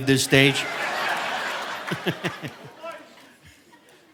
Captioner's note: audience laughing; chuckles